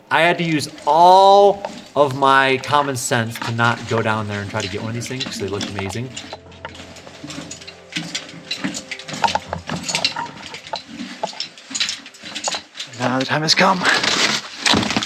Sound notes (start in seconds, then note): 9.6 equipment rattling; 9.6 footsteps crunching; 14.8 box thumping